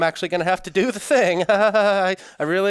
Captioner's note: laughs nervously